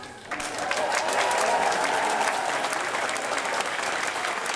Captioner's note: applause